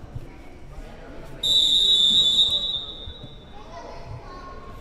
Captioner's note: whistle chirping